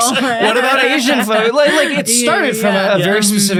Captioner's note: all laughing